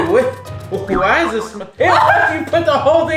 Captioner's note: coughing; cartoonish boinging; laughing